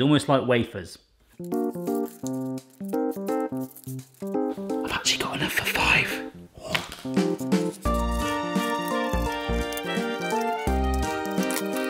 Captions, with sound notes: Almost like wafers. (upbeat electronic tune) (loud scrawling) I've actually got enough for five, aw! (marker scrawling) (loud snipping)